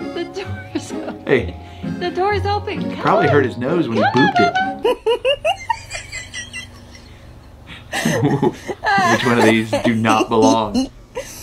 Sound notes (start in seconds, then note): 5.2 wheezing and laughing